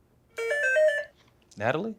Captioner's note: buzzer